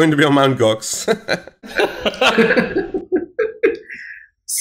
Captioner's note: chuckles